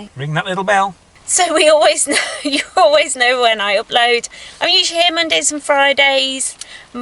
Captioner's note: laughing